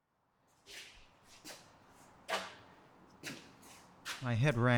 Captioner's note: shoes scraping